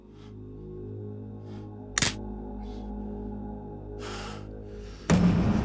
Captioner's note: electrical clicking; tense music